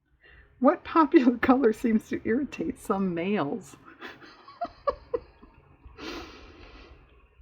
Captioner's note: laughs